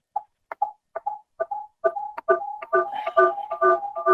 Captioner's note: feedback squelching